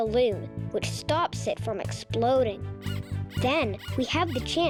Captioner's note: pig squeaking